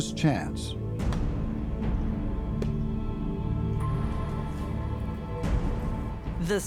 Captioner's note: tense music; wood thudding